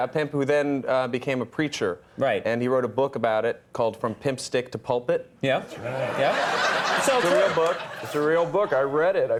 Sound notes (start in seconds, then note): 5.7 audience laughing